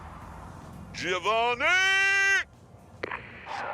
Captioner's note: bellows